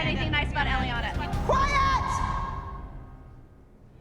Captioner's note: yelling